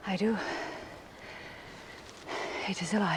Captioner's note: sighs